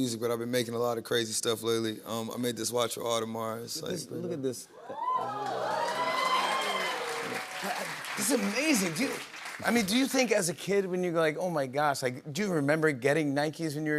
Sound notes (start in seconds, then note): 4.8 cheers and applause